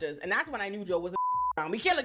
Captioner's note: beep